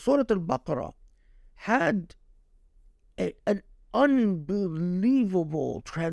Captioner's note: speaking Arabic